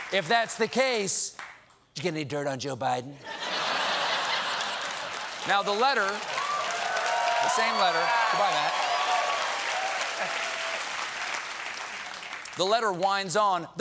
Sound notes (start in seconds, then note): 1.6 applause; 1.6 laughter; 8.8 applause